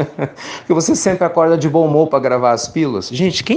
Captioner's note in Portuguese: risos